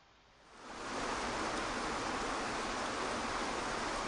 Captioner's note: water crashing